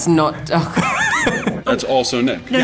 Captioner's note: laughter